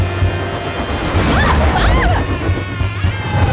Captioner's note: screaming